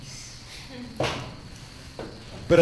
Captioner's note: giggle